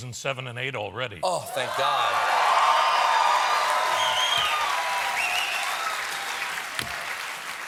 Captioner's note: cheers and applause